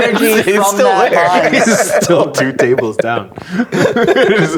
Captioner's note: players laughing